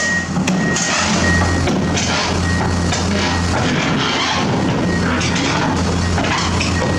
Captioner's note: track beeping